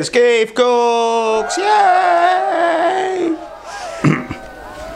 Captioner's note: cheering